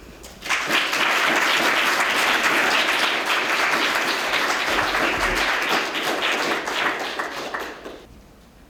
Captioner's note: applause